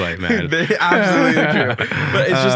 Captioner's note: both laugh